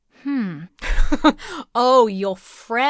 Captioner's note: chuckles